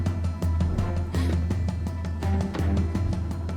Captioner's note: gasp